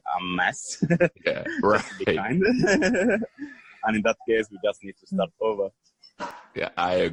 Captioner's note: laughter